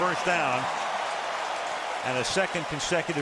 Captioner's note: cheering